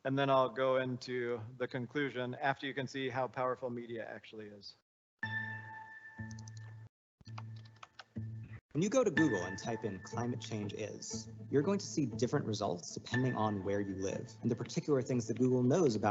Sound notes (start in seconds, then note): 5.3 light music; 7.3 keyboard clacking